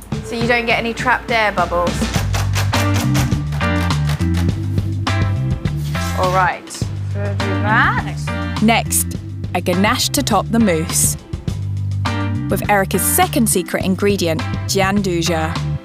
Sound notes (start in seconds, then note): 2.2 tray bangs; 4.0 upbeat music